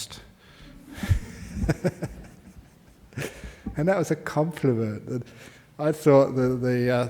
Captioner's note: Ajahn Laughs